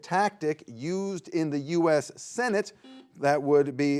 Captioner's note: buzzer beeps